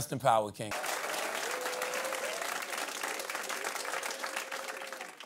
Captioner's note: cheering and applause